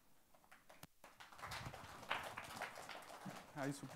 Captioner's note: audience clap